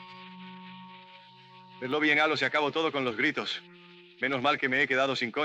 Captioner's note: in spanish